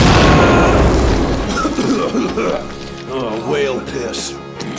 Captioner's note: both scream; coughing; coughs